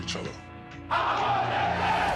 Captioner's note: men yelling